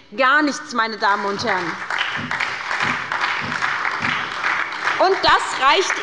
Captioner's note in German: Beifall bei der SPD